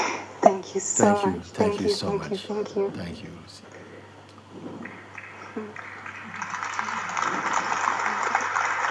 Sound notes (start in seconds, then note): 5.1 applause